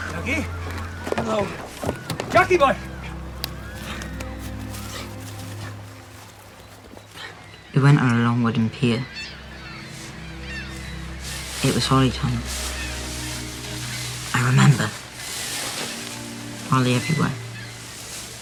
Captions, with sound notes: Jackie! No! Jackie boy! [DISTANT SCREAMS] We went on a long wooden pier [SEAGULLS & WAVES] It was holly time I remember! Holly everywhere